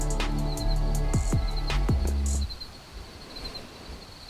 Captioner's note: crickets chirring